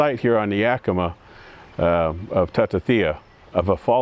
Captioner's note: speaks in foreign language